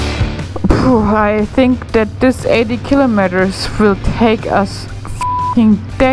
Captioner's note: beep